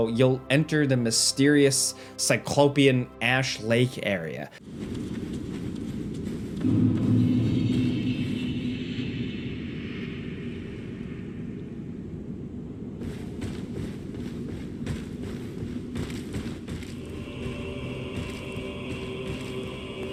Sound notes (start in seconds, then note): 4.6 footsteps pattering; 4.8 air whooshing; 12.6 footsteps pattering; 16.4 ominous music